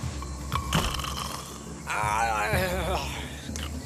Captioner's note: snoring